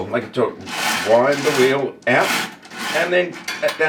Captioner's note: clattering